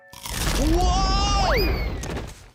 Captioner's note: crunch